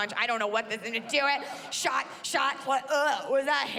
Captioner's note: gags